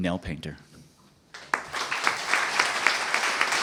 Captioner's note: applause